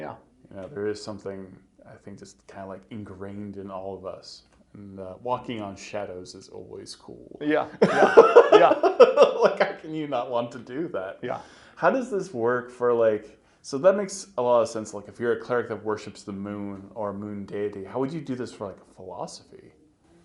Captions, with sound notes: There is something kind of like ingrained in all of us and walking on shadows is always cool. (laughing) Like how can you not want to do that? So that makes a lot of sense, like if you're a Cleric that worships the moon, or moon deity, how would you do this for a philosophy,